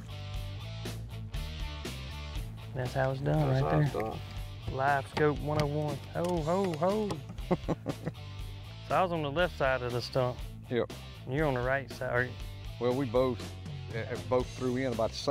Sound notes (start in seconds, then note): 0.3 rock music; 7.2 chuckles